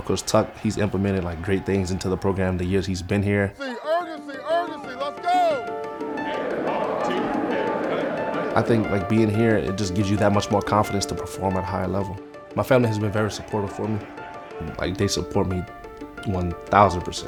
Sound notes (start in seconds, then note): 5.1 group chanting; 5.1 upbeat music